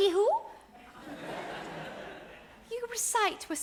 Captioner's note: audience laughs